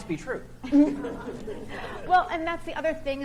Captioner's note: audience chuckles